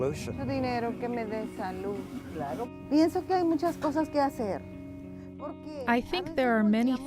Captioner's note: mellow electronic music; in foreign language